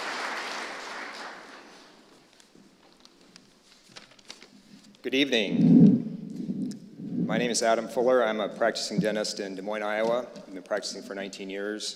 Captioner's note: applause